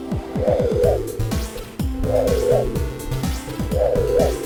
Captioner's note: whirring sound